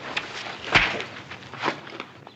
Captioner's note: smack!